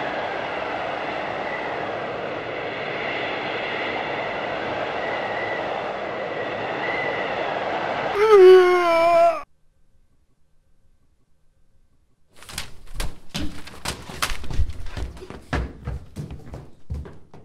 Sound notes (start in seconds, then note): 8.0 complaining